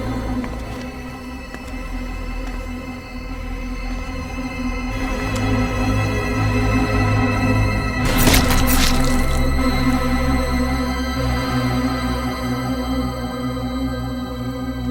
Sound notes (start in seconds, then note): 0.0 insects chirping; 4.8 dramatic music